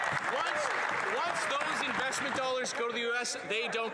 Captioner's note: cheers & Applause